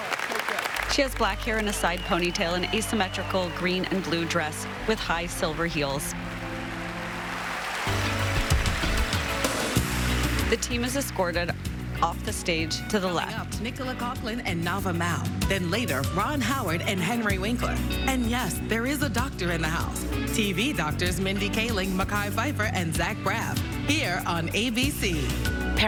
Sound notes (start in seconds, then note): 8.1 applause